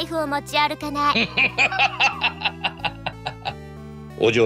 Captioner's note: laughs